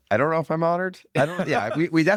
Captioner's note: laughs